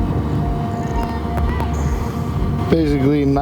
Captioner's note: distant people shouting